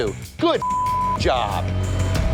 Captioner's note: beep